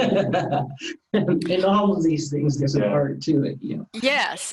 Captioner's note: laughing